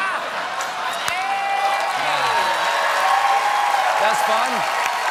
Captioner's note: cheers and applause